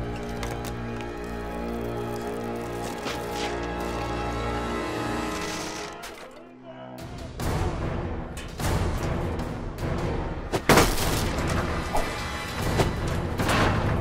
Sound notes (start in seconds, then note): 0.2 suspenseful music; 7.2 engines buzzing; 7.2 man chattering; 10.6 ax thuds